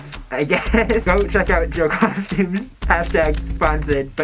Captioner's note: laughs at the end